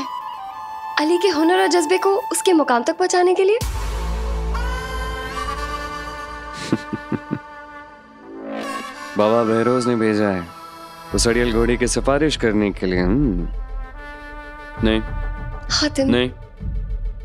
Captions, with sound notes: to guide Ali's passion and zeal in the right direction. [laughing] Baba Behrouz has sent you to advocate for that stubborn man! - No. - Hatim!